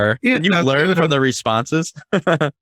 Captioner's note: laughing